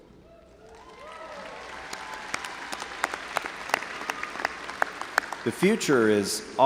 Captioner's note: audience cheering and applauding